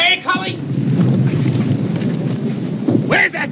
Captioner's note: artillery whizzing, explodes